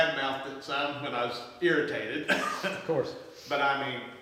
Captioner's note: laughs